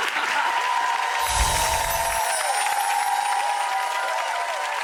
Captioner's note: audience cheers